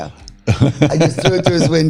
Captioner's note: laughs